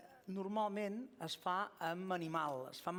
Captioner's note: non-english speech